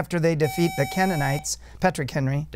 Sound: buzzer

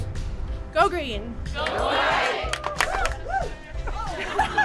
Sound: overlapping chant; indistinct conversation

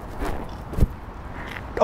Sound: thump

